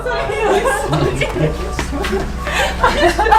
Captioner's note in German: Lachen und Durcheinander Reden